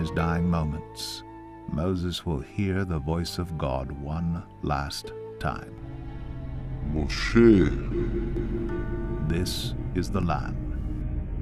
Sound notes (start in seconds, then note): 7.0 speaking in Hebrew